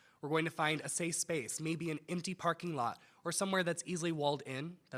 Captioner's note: none